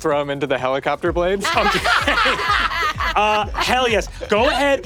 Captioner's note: players laughing